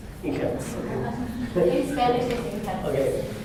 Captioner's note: spanish